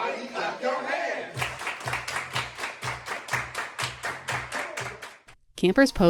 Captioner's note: clapping